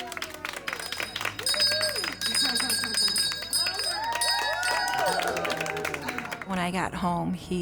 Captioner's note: group cheering; group clapping; bell ringing